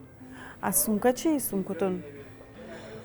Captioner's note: speaking Tajik